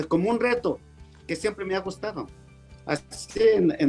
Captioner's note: speaking Spanish